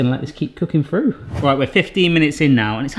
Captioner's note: air whooshing